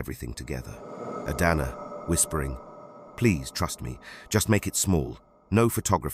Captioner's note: whispering